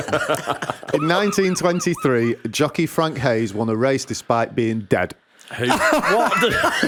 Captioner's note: laughter